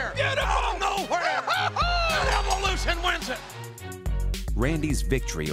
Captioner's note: laugh